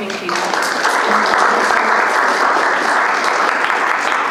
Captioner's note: audience clapping